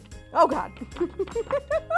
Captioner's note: laughs